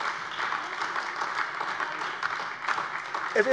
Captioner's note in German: Beifall AfD